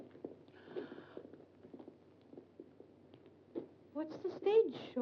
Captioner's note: Glenda gasps